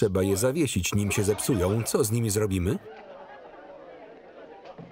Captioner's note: laughter